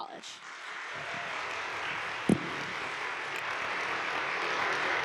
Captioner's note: audience applauds